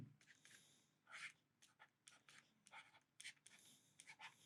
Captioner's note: pen scratching